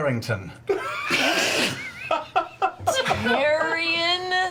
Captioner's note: all laugh